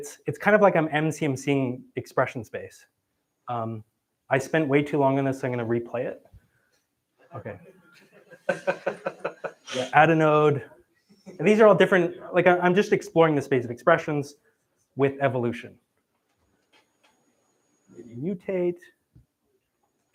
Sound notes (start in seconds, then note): 8.0 laughter